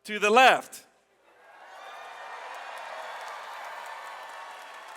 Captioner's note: audience cheers